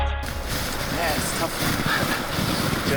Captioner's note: snow shuffling; chuckling